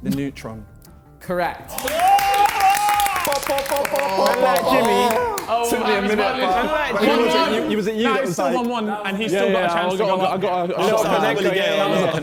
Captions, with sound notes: - The neutron. - Correct. (men cheering) - Pop, pop, pop, pop, pop, pop. Took me a minute but, who was it? Was it you who was like. (men chattering)